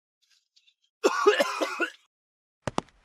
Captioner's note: coughing